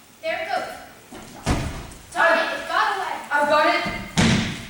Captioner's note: stomping sound